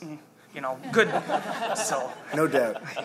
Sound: laughter

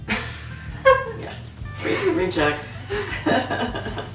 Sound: laughing

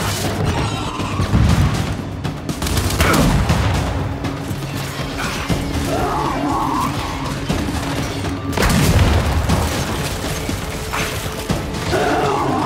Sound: gunshots

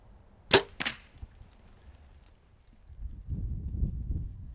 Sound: arrow clicks

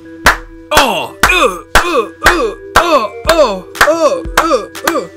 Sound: sounds of kicks and grunts

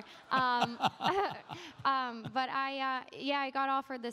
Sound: laughter

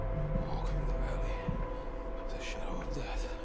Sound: whispering

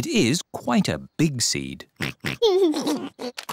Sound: oinks and giggles

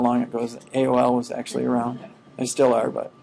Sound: students chuckling

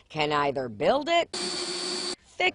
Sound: drilling

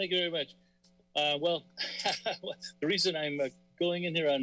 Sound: laughter

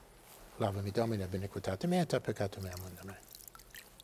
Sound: praying in Latin

